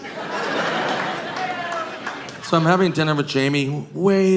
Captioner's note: audience laughing